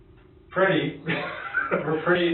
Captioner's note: laughs